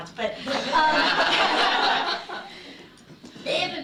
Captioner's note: laughter